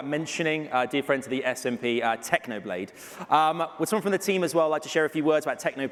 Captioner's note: sigh